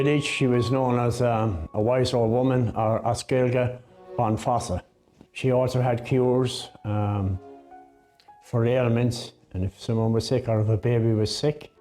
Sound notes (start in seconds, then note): 3.4 in Irish